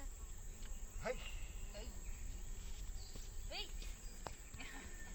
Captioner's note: speaking Yanomami